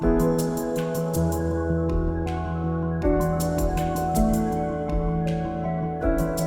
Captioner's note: none